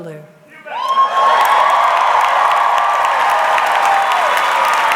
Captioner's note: audience clapping